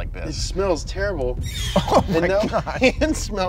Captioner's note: dramatic, high pitched sound